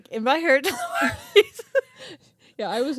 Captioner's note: giggling